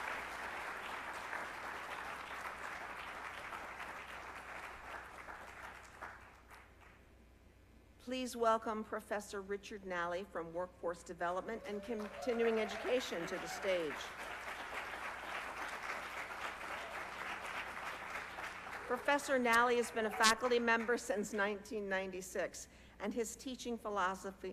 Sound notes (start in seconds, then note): 13.7 applause